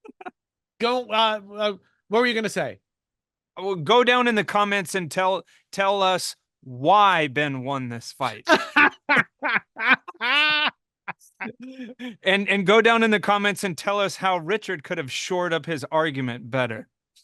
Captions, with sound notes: - What were you gonna say? - Go down in the comments and tell us why Ben won this fight. (laughing) And go down in the comments and tell us how Richard could have short up his argument better.